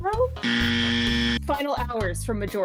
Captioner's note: wrong buzzer